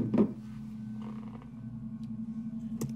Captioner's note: bottle clunks